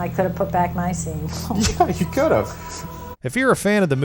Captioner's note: laughs